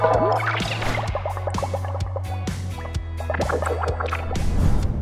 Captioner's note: upbeat rock music; echoing bubbles